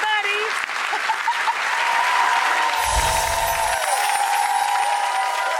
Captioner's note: audience laughs and applauding